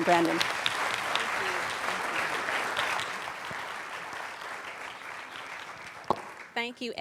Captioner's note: applauding